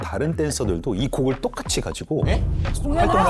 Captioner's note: shocking sound effect